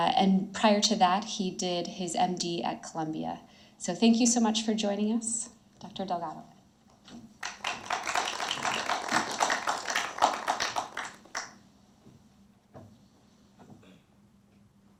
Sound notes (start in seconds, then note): 7.4 audience applauds